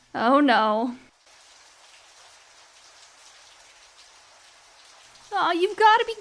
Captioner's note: water splashing